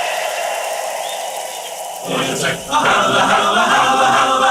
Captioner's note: applause